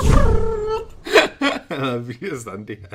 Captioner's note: laughs